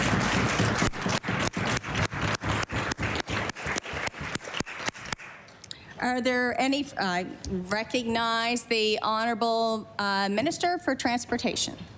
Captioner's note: applause